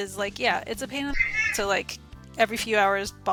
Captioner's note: meow